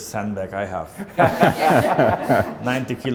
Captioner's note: all laughing